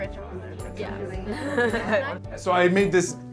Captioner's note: laughs